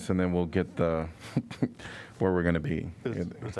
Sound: laughter

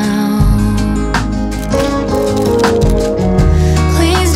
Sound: camera shutters

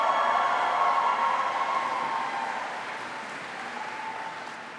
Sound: applause

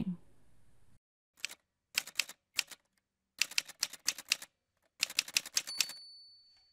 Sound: typewriter sounds

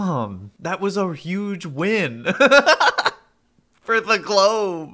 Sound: laughs

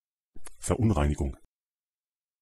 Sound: fast Pronunciation

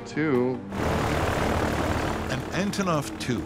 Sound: plane engine roars

